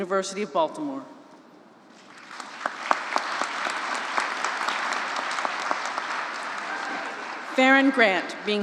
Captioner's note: applause